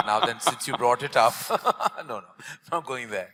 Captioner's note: laughs